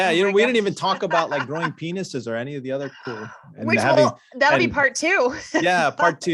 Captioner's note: chuckles